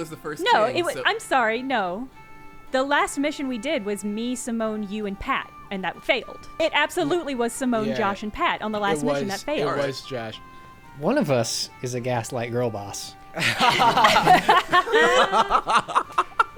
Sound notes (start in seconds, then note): 11.1 pat; 13.3 players laughing